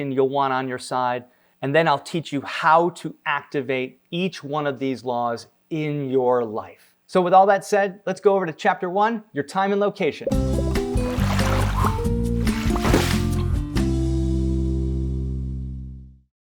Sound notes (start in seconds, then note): 10.2 upbeat music; 10.3 water sloshing